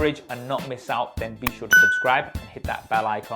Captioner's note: beeps